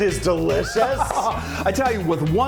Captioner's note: laughs